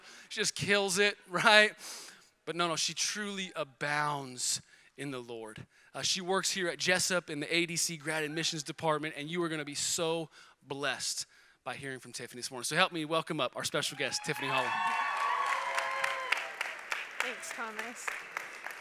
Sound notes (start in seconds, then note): 13.9 cheering